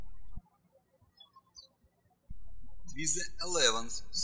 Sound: birds chirping

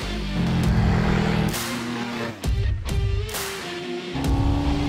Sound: car speeding; motorbike engine; jetboat sounds; jetboat sounds

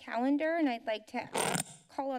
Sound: glitching sound

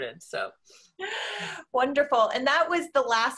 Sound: sigh

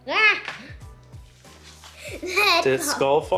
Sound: laughs

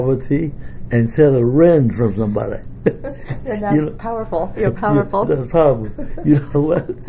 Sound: laugh

